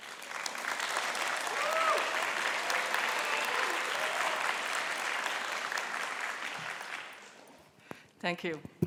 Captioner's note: applause